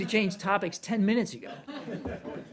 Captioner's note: laughter